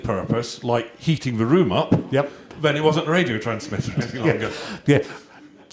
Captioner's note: chuckles